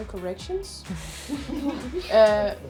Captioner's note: laughing